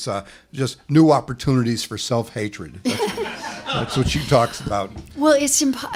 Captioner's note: laughter